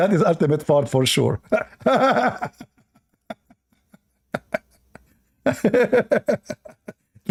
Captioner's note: Ketawa